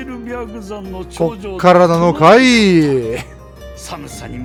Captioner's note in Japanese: 笑い